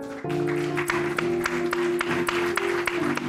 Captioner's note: applause